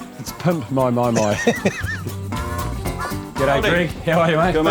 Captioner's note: laughter